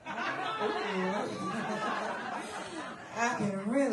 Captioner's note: laughter